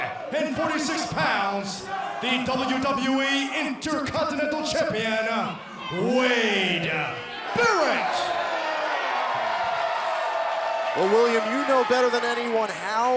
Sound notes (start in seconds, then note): 4.1 crowd cheering